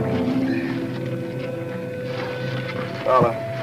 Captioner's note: Vince groans